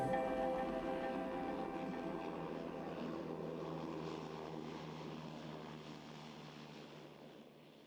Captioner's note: airplane landing